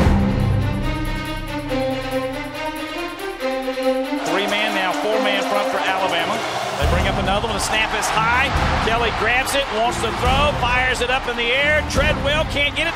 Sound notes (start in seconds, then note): 4.5 voiceover